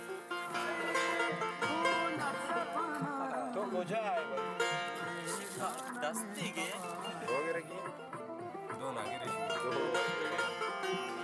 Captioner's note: chattering. Music and Balóchi song